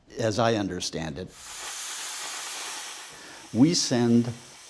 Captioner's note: soldering iron fizzing